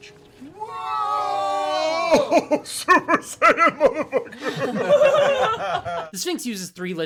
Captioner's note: laughs